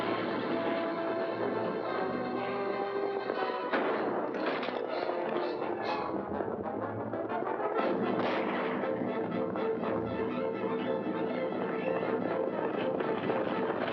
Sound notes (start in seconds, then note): 0.0 dramatic music; 0.0 hooves pounding; 3.3 crack; 5.3 dramatic music; 8.1 gunshot; 9.2 dramatic music; 9.2 hooves pounding